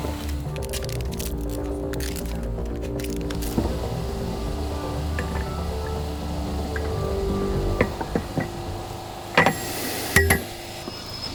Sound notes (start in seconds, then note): 0.2 crackling; 3.4 tense music; 9.3 metallic clatter